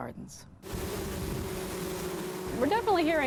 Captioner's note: bees buzzing